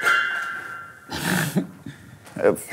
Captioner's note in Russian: смеется